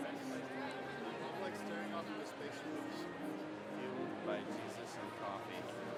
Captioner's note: chatter